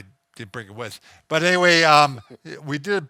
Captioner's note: chuckles